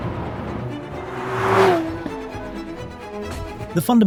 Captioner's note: car zooming; classical music